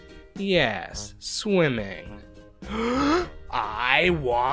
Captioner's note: big inhale